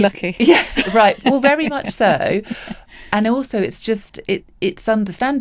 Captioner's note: laughs